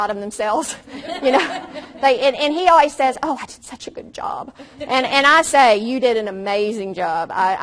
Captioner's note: audience laughs